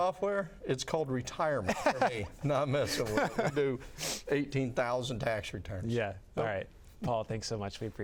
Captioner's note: laughs